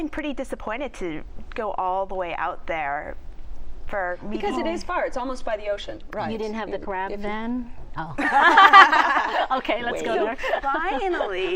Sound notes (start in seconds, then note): 8.2 laughters